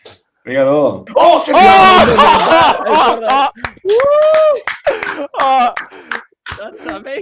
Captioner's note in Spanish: Murmullos y aplausos